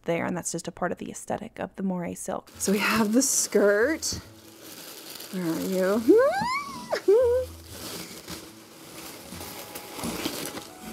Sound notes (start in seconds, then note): 6.1 whimpers excitedly